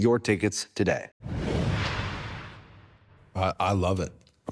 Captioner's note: logo whooshing